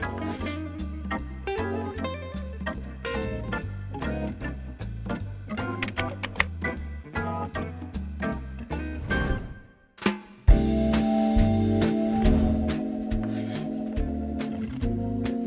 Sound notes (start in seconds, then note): 0.1 relaxed music; 5.8 text clicking; 10.5 positive music